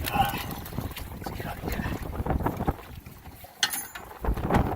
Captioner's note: grunting